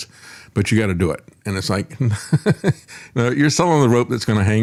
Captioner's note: laughs